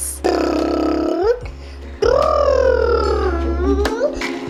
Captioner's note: imitates helicopter